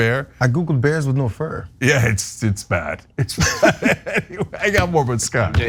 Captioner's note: laugh